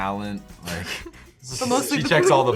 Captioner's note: Lola laughs